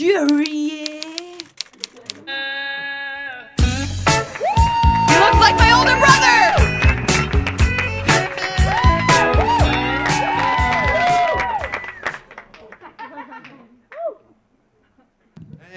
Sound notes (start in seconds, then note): 4.6 audience cheering; 6.4 audience clapping; 12.5 audience laughing